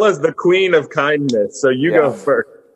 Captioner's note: giggles